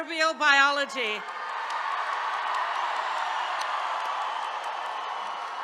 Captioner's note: attendees cheering